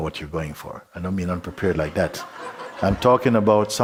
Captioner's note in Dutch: gelach